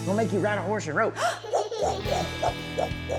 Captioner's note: giggling; rope sounds